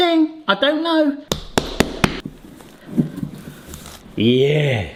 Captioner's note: dough slaps